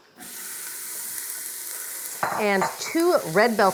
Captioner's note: onions sizzling